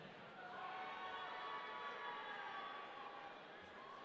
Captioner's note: audience cheering